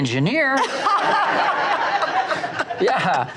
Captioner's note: audience laughs